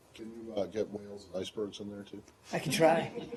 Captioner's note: laughter